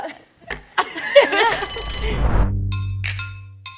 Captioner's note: laughs